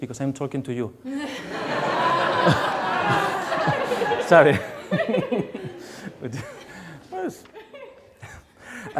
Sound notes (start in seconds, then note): 1.1 audience laughs